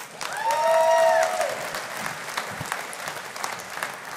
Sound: audience applauding

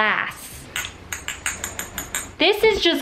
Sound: glass clinking

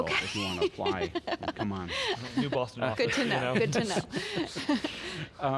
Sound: laughs

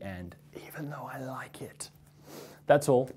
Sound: whispers

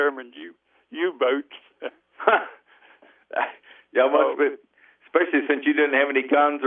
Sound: both laugh

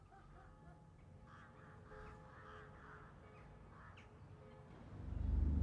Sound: church bell ringing, birds singing - fades in

